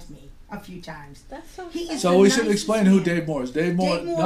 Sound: voiceover

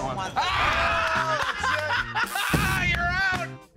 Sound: laughter

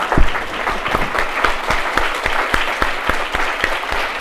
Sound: applause

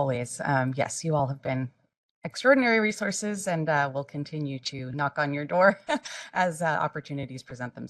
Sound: laugh

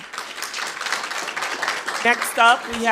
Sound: attendees applauding

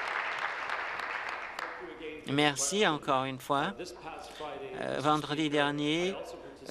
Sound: applause

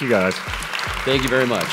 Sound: applause

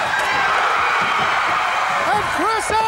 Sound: exploding

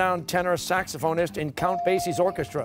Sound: bell rings

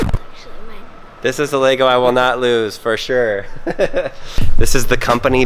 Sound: laughs

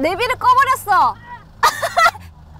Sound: screaming

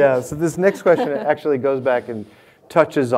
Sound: laughs

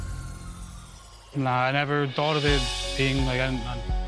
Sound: stutters

